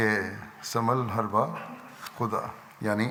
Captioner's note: Arabic